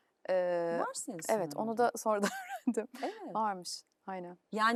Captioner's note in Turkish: kahkaha